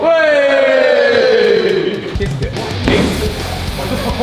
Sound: lads cheering; dramatic music

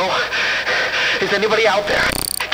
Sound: heavy breathing intensifies

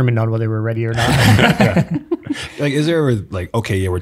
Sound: everyone laughing

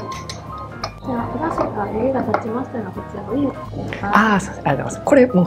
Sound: waitress speaks in japanese; speaks in japanese

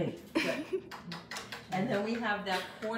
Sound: laughs

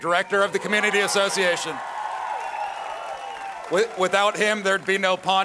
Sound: applause

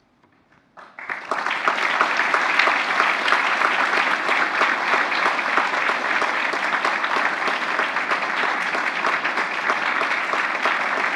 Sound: applause

